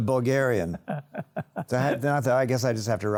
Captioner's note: laughs